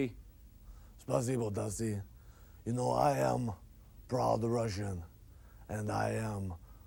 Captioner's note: speaking Russian